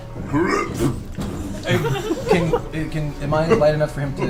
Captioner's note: imitates puking